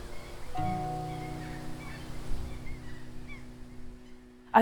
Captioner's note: birds chirping; soft music